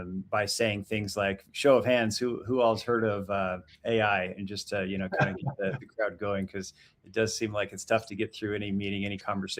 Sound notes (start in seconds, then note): 5.1 chuckles